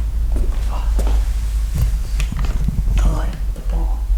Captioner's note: footsteps